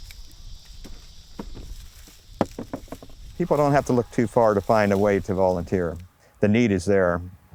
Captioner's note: nature sounds